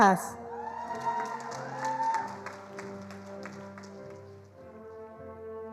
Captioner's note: attendees applauding